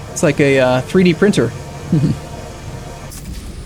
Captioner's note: small Chuckle